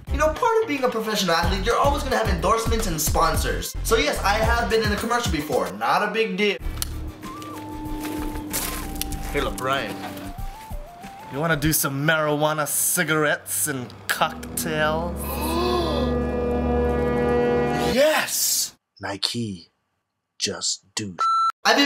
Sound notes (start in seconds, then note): 15.7 gasps